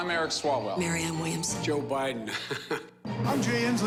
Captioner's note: laughs